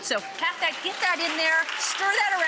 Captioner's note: audience applauding